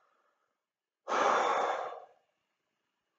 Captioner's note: narrator exhaling heavily